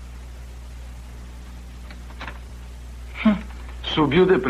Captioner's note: lock Unlocking